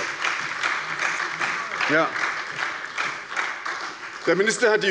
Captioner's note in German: Beifall bei der SPD